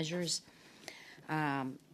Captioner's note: speaking French